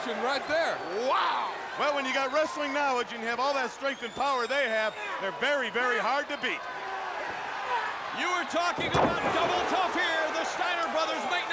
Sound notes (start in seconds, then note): 7.7 Scott yelling